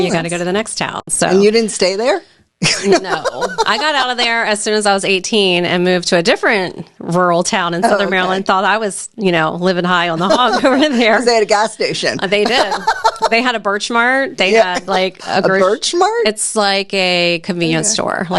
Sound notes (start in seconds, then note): 2.6 laughing; 12.3 laughing